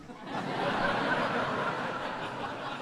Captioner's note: laughter